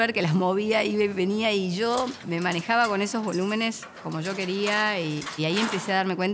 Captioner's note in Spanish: sonido metálico